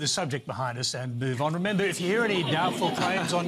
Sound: laughter

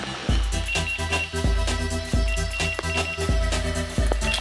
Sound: rod beeping

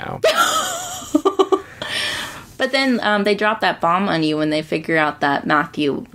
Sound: laughs

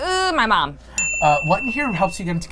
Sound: ding

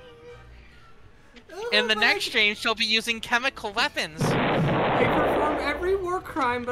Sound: stock explosion

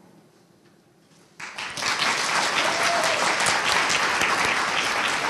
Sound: audience applauding

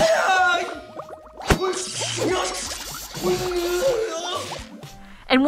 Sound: martial arts screaming

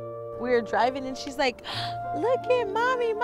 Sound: gasps

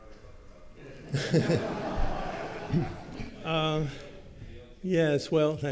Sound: laughter

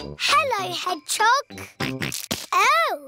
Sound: snorts

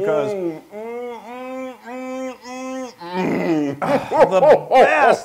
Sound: laugh

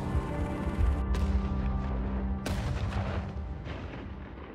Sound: explosions booming

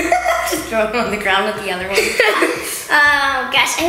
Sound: laughs

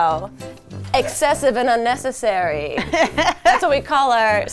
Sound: laughs

